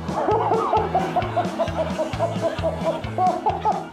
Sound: laughs

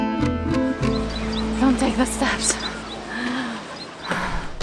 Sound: breathing heavily

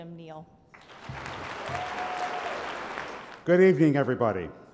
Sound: applause

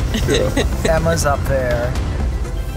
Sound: laughs

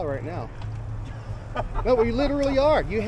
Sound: laughs

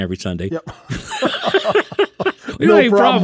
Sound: both laughing

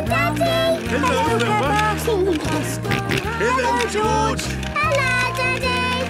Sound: George giggling and snorting

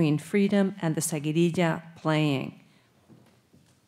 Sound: speaking Spanish

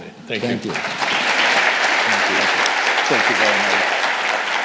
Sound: audience applauding

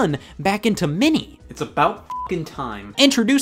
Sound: beep

